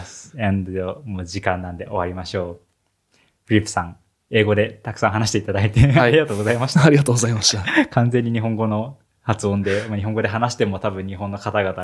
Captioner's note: foreign language